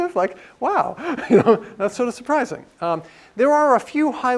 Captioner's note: laugh